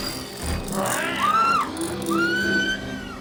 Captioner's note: woman screams